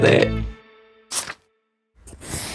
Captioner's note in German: Wisch-Geräusch